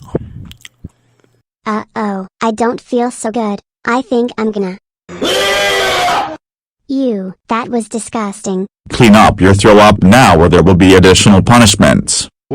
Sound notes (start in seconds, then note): 5.1 Caillou vomits